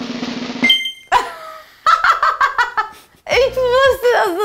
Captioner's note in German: sie lacht